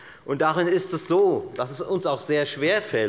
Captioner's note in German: none